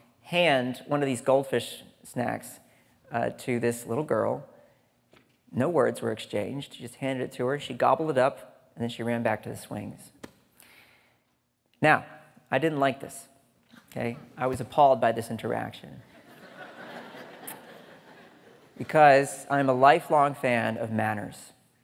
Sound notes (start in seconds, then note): 16.2 audience laughing